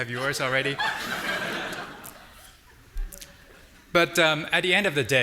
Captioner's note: audience laughing